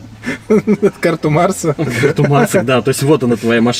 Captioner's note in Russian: смеётся